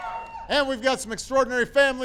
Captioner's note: applause